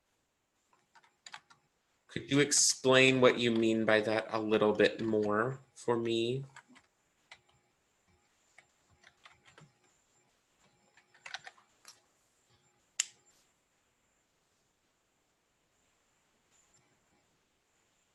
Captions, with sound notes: Could you explain what you mean by that a little bit more for me? (keyboard tapping)